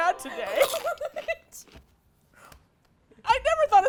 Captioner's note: laughs